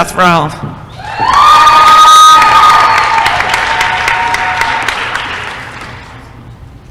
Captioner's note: applause & cheering